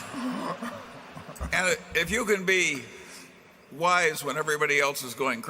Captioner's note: laughter